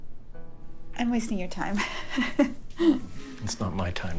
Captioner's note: laughing